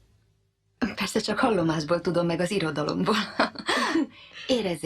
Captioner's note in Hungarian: nevetnek